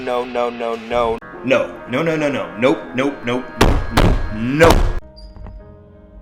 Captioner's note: smacks table twice